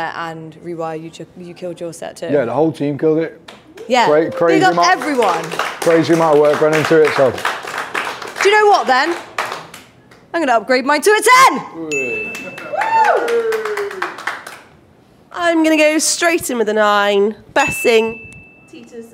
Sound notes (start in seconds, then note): 7.7 team applauding; 12.3 team applauds and cheers